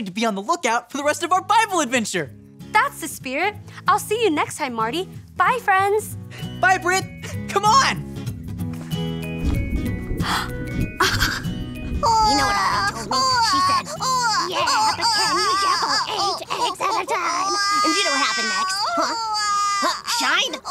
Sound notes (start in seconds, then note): 8.4 light playful music; 11.0 Britt laughing; 11.0 thunder rumbling; 12.4 Glimmer crying